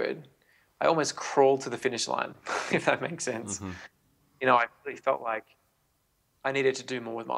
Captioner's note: laughs